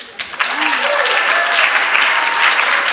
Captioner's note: applause